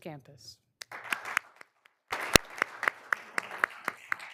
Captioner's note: all applauding